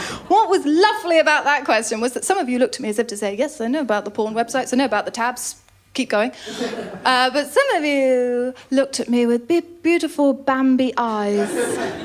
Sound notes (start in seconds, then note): 6.5 laughter